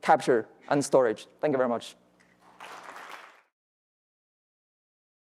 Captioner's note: audience claps